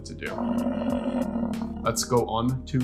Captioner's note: buffalo growling